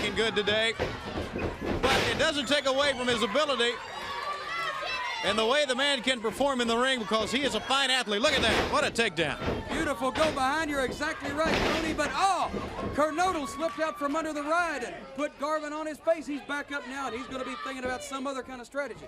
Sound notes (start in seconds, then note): 4.9 crowd cheering